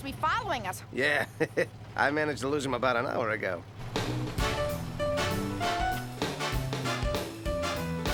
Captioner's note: chuckles